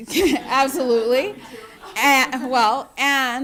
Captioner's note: laughter